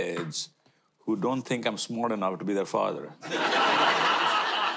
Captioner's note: audience laughter